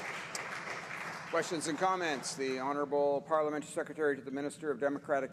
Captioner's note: applause